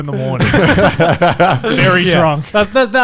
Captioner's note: guys laughing